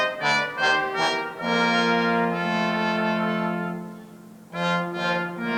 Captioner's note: none